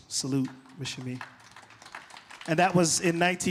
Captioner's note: applause